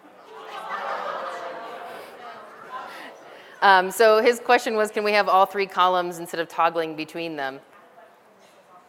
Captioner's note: laughter